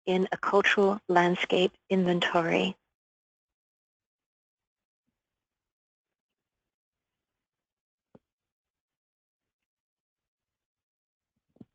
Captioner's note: pause